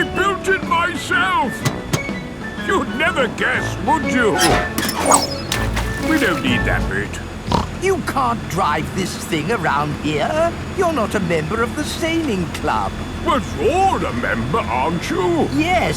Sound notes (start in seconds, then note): 4.5 splashes; 7.4 snorts